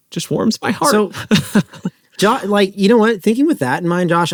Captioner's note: laughs